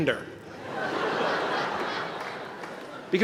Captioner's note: laughter